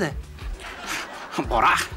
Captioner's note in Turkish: Gülme efekti